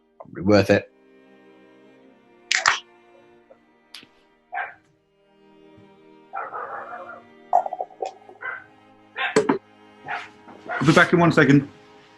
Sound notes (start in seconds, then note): 2.5 cracks open can; 4.5 dog barking; 10.0 dog barking